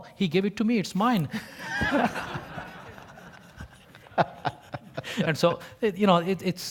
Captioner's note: laugh